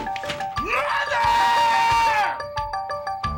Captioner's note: screams